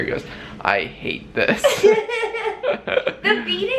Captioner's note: laughter